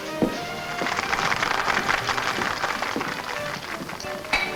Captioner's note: patrons clap